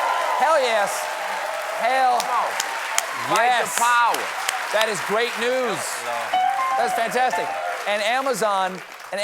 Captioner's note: cheers and applause